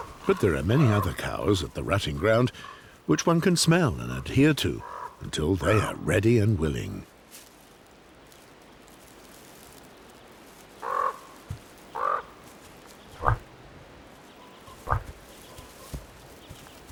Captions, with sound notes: But there are many other cows at the rutting ground, which one can smell and adhere to until they are ready and willing. [bird cawing] [moose grunts]